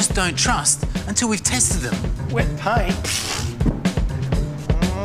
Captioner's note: groans